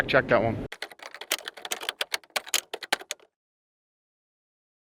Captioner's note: keyboard keys clicking